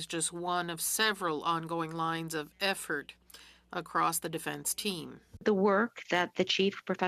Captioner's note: speaking French